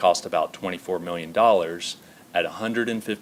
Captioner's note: none